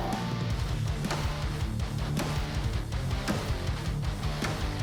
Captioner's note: pounding